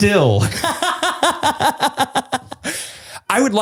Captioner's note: laughs